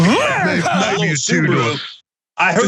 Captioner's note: laugh